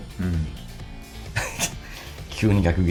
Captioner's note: laughs